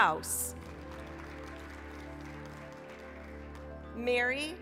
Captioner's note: applause